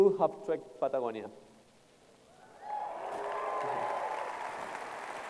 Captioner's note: applause